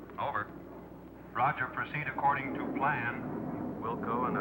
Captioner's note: man On Radio